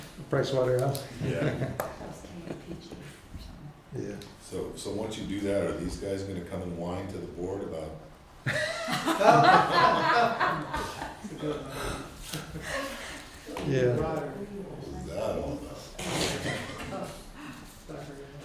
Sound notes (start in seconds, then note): 0.0 background laughter; 8.4 background Laughter and Conversations